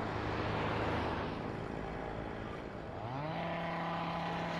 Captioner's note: noisy construction